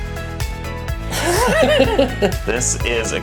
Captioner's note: laughter